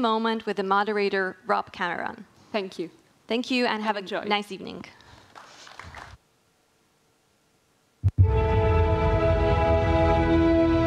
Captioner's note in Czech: Potlesk